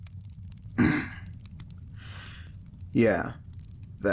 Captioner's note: clears throat